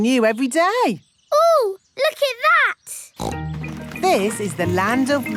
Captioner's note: snorts